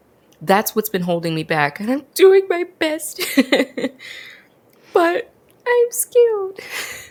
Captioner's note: laughs